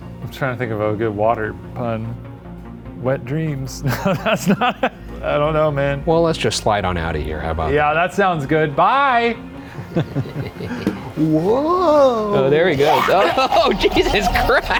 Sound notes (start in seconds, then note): 3.9 laughing; 9.6 chuckling